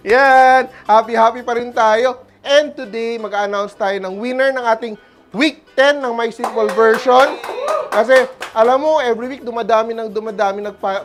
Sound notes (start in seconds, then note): 6.4 applause; 7.2 cheers